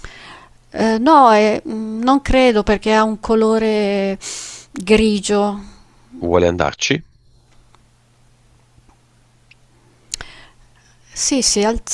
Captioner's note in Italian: sbuffare